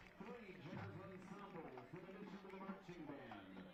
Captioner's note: applause